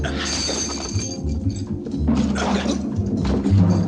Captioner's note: chains rattling; thudding